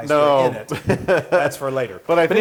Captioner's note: laugh